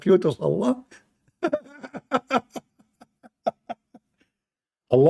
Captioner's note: Ketawa